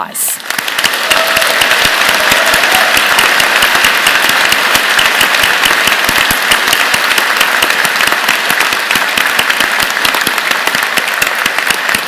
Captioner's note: applause